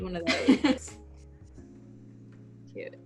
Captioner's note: giggles